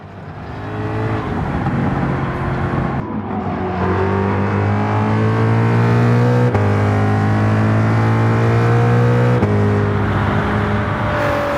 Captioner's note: engines revving, cars noises